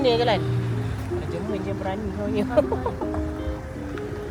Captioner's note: laugh